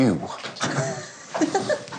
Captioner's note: John chuckles; bride giggles